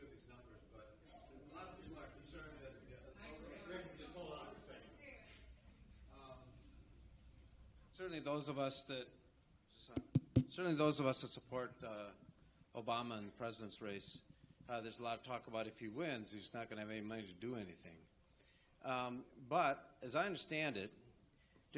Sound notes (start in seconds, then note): 2.8 audience members talking over one another; 9.9 taps microphone